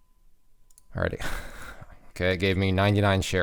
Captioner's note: chuckles